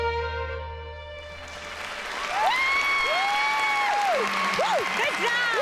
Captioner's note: applause and cheers